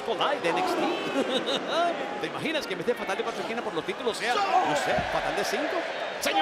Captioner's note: laugh